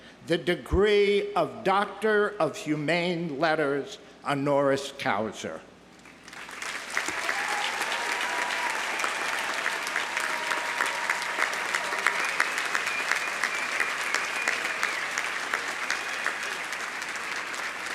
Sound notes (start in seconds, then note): 6.5 audience applauding; 6.5 audience cheering